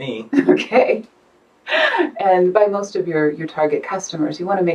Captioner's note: laughs